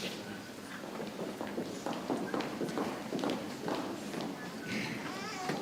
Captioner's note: people chattering softly